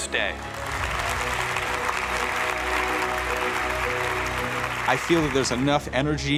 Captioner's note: cheers and applause